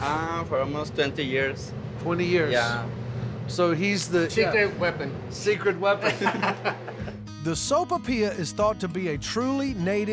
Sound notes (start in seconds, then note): 6.0 laughter